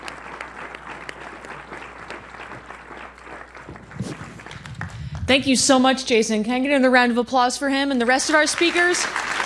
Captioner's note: applause